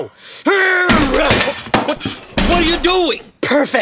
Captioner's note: sound of a computer, hitting the floor